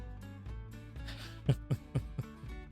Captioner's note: laughs